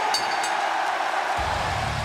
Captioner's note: bell ringing; crowd cheering